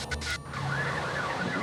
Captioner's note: emergency sirens